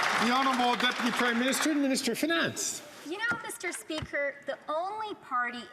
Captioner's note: some Applause